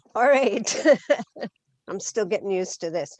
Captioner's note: laughs